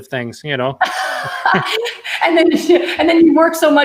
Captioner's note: laughing